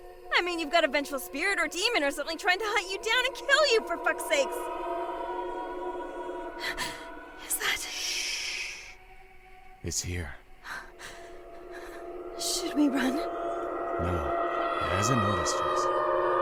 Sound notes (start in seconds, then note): 5.8 screech